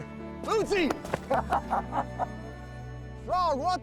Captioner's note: laughter